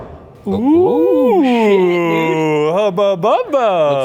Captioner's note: whooping